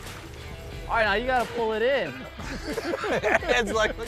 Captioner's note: laughing